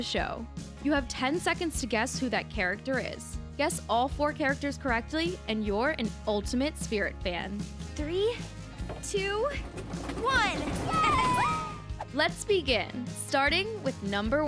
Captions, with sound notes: You have 10 seconds to guess who that character is. Guess all four characters correctly, and you're an ultimate Spirit fan. 3, 2, 1! [wheels rumbling] Yay! Let's begin. starting with number one.